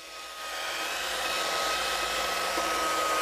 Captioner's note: whirring saw noises